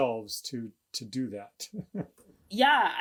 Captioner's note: laughs